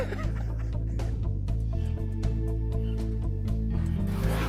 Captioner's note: both men laugh